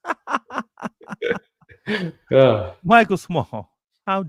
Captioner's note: laughter